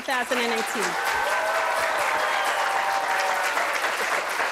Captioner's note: applause